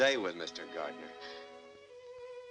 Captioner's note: gasps